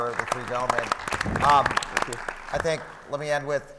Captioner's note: audience applauds